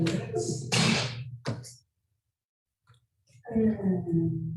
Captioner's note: oven door slamming